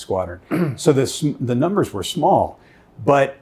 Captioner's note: clearing throat